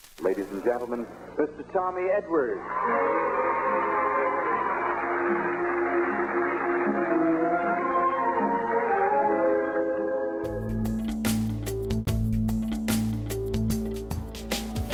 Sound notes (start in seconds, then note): 2.4 crowd cheering; 7.7 orchestral music